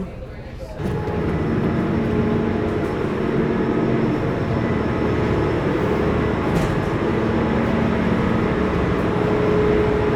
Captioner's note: engine sound